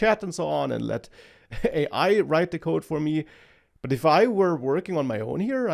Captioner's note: laughs